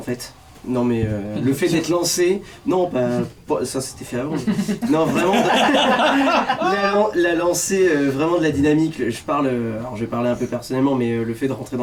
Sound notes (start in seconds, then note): 4.4 laughs